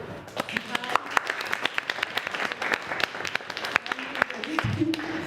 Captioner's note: applause